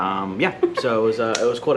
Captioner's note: laughs